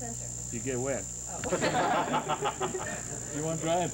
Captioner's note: laughter